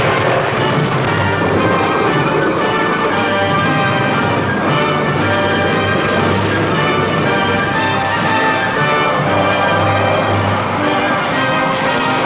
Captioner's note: tank rumbling